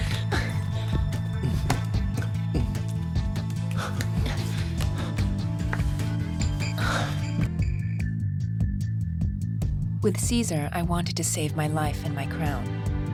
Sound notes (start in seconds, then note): 0.0 Antony groans; 0.1 Cleopatra giggles; 3.6 both moaning